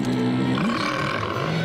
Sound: groaning

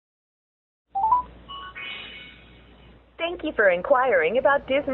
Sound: tone dings

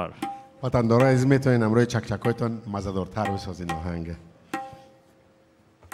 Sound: speaking in a language other than English

